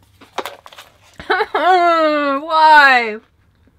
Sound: sobbing

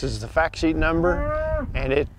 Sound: cow moos

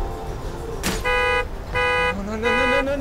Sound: car alarm honks

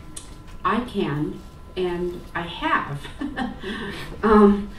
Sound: laughs

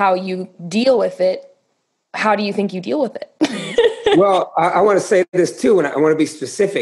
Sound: laughter

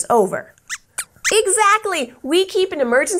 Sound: squeaks squeaks

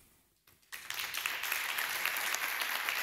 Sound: applause

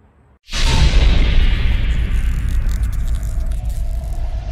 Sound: dramatic electric buzz

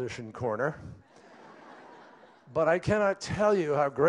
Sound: laughter

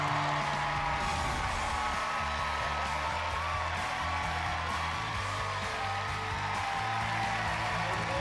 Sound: crowd cheering

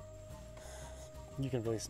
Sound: sniffs

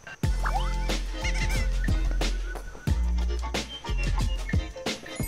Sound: excited footsteps

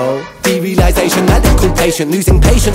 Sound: none

